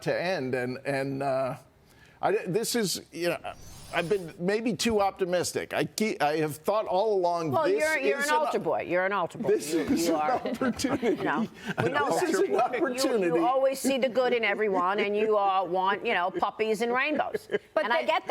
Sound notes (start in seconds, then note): 13.8 laughter